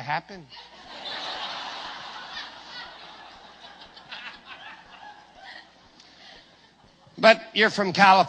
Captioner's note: risate fortissime